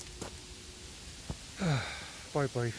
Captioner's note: heavy Sigh